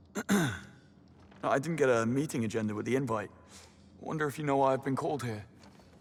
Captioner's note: clears throat